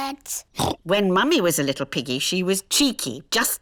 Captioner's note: oinks